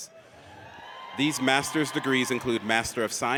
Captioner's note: audience cheers